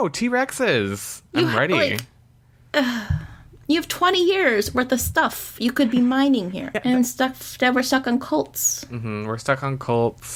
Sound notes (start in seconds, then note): 2.8 sigh